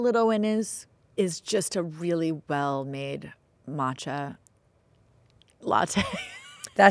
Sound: laughing

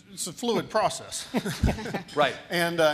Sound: panel laughing

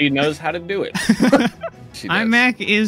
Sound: laughter

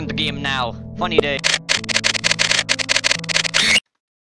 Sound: morse Code

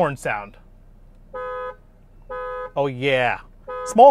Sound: car horn honking

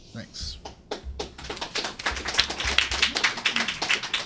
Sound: clapping

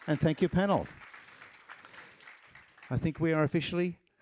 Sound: applause

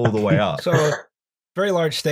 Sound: laughs

